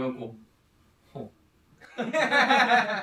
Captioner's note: chuckles